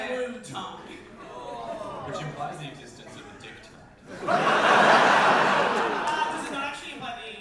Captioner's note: audience laughter